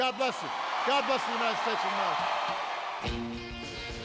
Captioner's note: applause